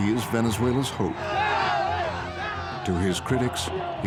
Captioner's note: people shouting